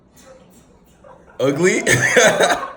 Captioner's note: laughs